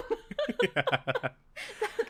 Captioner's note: laughs